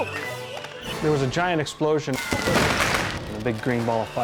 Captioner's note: explosion booms